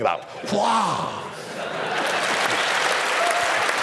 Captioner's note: laughter and applause